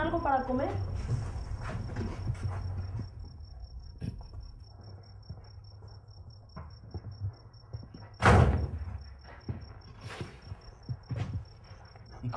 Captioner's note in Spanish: sin sonido